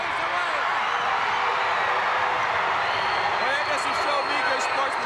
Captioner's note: crowd cheers